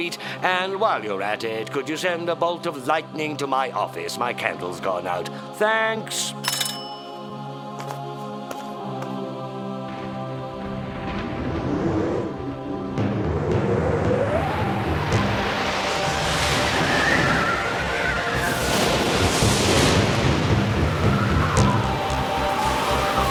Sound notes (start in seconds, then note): 7.2 whimsical music; 11.1 air whooshing; 19.0 thunder and lighting crashing